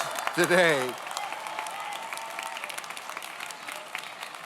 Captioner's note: audience applauds